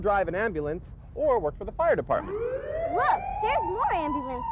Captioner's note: sirens